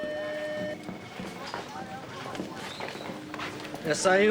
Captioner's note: phone ringing